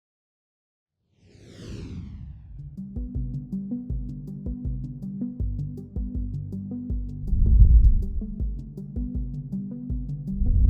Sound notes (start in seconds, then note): 1.2 air whooshing; 2.6 gentle music; 7.4 air vibrating